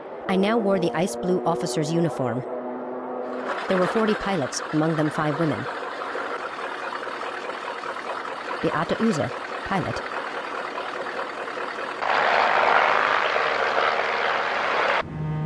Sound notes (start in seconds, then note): 8.7 speaking foreign language; 12.3 engine rumbling; 15.2 light dramatic music